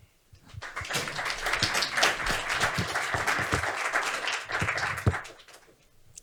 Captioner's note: audience applauding